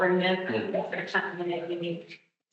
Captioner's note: audio cutting out